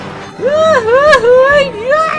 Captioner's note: screaming